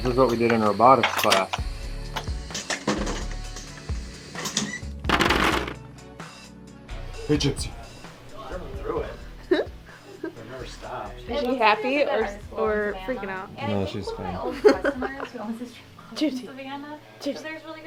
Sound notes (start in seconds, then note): 2.8 tapping; 9.4 giggling; 14.0 chuckling